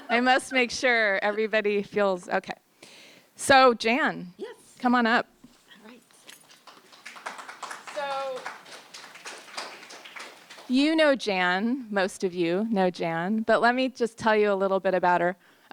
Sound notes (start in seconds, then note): 6.1 applause